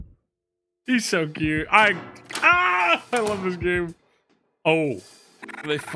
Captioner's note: yells